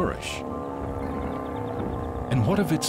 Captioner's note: grumbling